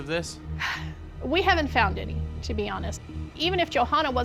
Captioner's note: sighs